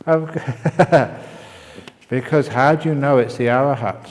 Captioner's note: laughter